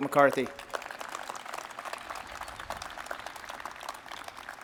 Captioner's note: audience applauds